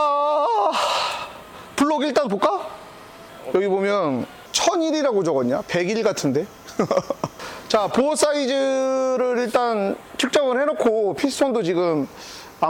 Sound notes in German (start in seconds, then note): 6.6 Gelächter